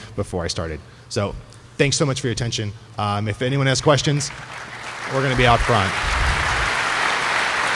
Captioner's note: applause